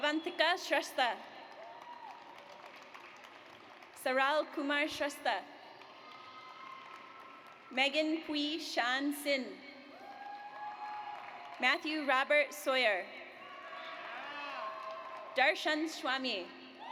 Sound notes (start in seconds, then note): 1.4 audience applauds; 5.7 audience applauds; 10.0 audience applauds; 13.4 audience cheers